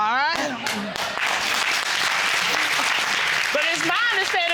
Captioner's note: audience applauding